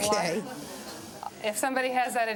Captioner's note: crowd murmurs